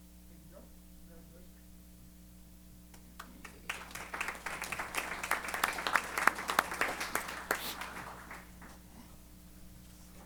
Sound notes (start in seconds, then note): 3.0 applause